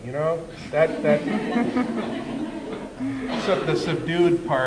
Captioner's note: laughter